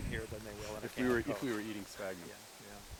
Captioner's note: laughing